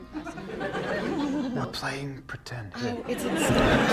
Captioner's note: stage-whispering